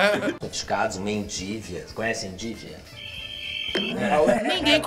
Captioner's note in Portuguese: grilos cricrilando